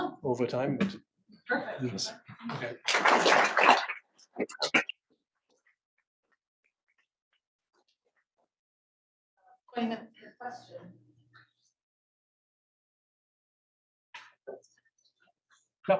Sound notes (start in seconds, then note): 2.6 audience applauds